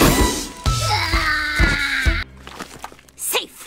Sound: small demonic screeching

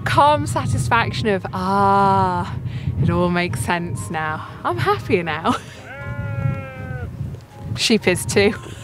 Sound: sheep bleats off camera

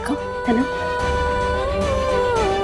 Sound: emotional vocalising

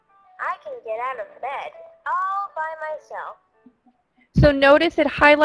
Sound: voiceover

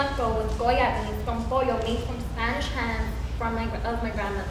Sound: speaking foreign language

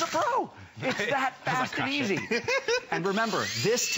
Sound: laughter

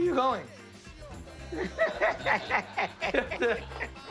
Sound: laughter

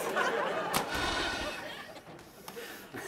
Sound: sighs; laughs

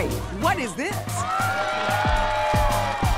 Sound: cheering

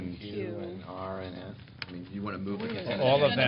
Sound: indistinct chatter

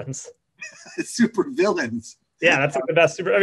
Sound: laughs

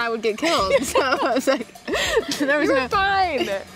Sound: laughing

